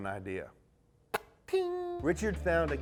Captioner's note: spit hitting spittoon